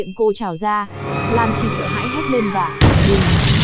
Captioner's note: boom